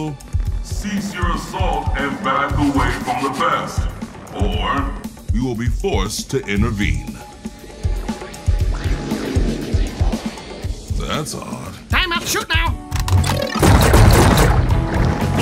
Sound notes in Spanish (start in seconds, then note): 7.4 Ruidos extraños saliendo de la pantalla de comunicaciones; 13.1 ¡Pew Pew Pew!